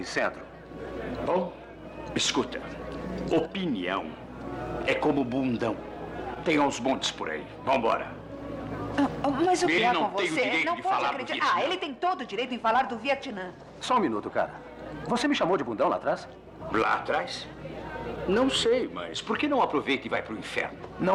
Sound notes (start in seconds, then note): none